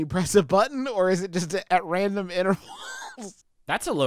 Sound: laughs

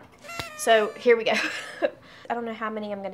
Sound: noisemaker blows

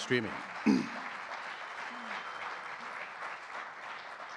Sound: audience clapping

